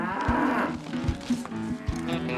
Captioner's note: cow moos